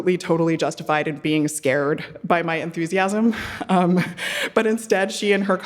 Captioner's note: laughing